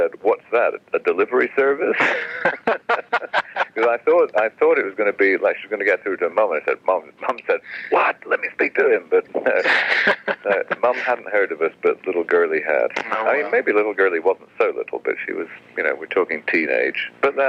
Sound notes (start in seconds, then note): 1.9 laughs